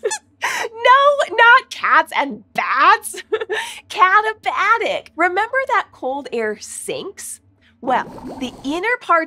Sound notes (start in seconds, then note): 0.8 squeaks squeaks